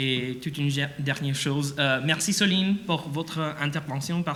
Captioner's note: speaks French